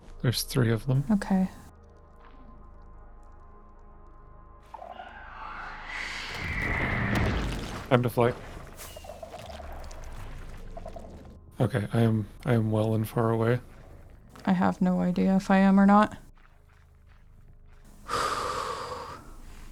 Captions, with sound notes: There's three of them. Okay. [SHREIKER NOISE] [WARDEN NOISE] Time to fly. Okay. I am, I am well and far away. I have no idea if I am or not. [big breath out]